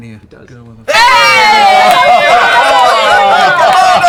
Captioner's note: cheering